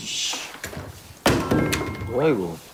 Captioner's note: drops water bottle